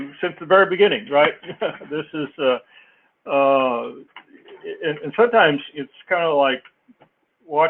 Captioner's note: laugh